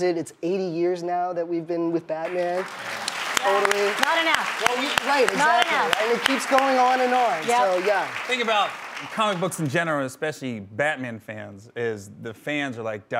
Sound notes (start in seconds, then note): 2.5 clapping